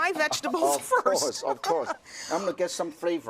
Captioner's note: laughter